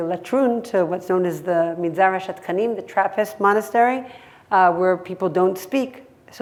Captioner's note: hebrew